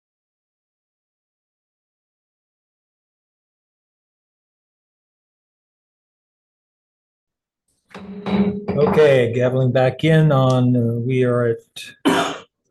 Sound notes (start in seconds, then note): 7.9 gavel bangs